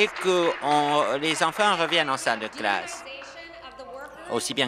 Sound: applause

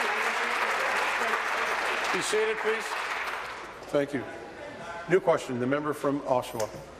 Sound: applause

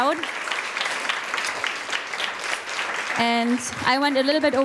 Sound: audience applauding

